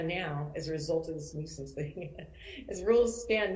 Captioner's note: laughs